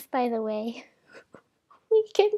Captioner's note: silent laughing